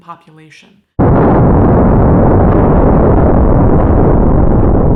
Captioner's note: bomb exploding